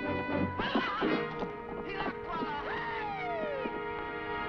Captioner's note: man shouting